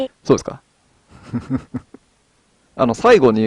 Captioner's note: laughs